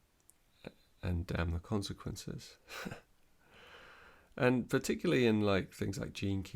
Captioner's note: chuckles